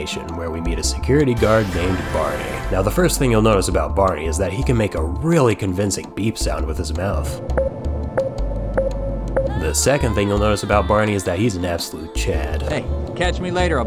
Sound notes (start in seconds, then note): 8.4 boop, boop, boop